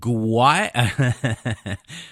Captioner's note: laughs